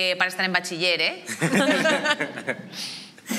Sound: laughter

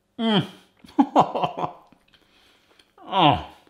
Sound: groans

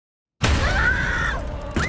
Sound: screams

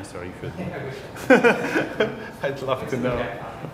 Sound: laughter

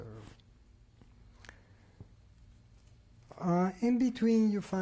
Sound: pauses for 3 seconds

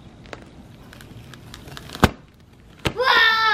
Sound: crunch and pop

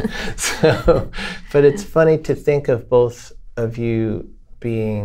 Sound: laughter

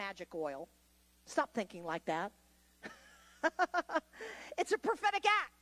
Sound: laughs

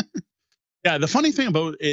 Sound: laughs

